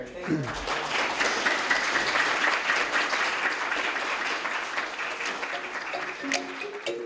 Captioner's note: applause; closing music